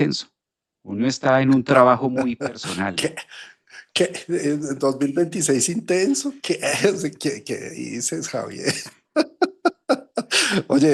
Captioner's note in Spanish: risas